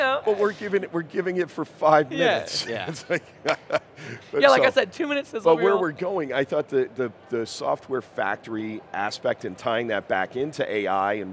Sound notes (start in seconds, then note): 2.7 laughs; 3.4 hands clapping